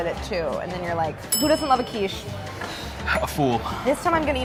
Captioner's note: bell dinging